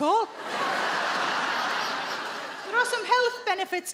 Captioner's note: audience laughing